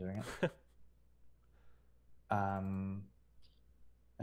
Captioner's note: laughing